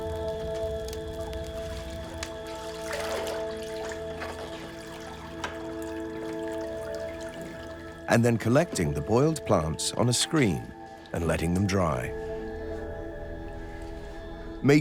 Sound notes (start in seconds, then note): 0.0 flames crackling; 2.8 water sloshing